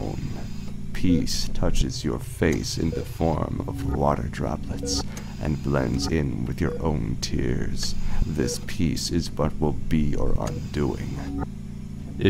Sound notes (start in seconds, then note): 0.0 mechanical ambiance